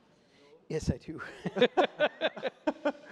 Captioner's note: laughs